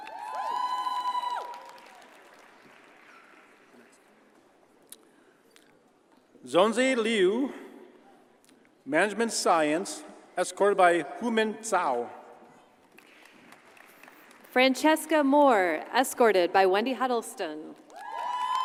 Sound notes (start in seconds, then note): 0.0 audience cheers and applauds; 12.9 audience applauds